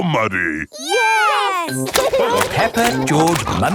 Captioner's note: laughing